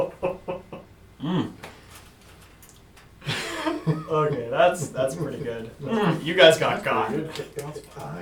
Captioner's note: laughing